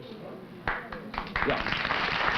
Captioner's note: applause